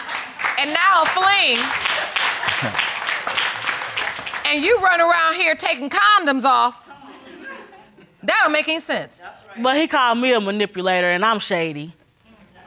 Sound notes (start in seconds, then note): 1.6 audience applauding; 2.3 chuckles